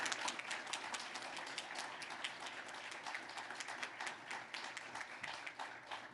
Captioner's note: applause